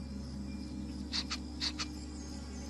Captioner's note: bunny Sniffing